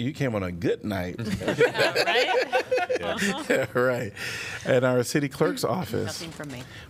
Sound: laughter

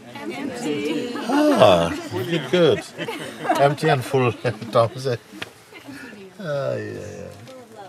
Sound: Lachen

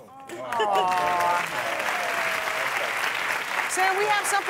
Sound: applause

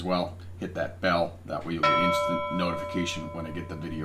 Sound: bell ringing

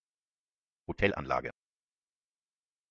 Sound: fast Pronunciation

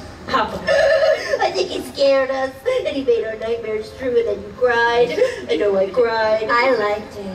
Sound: sobbing

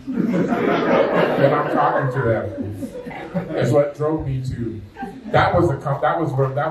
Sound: laughter

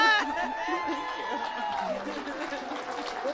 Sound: audience applauding and cheering

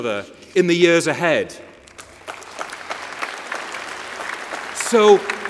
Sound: applause

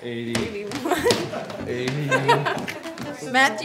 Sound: crew laughing

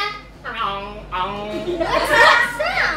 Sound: croaks

